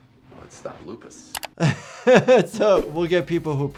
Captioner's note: mouse clicking; doctor laughing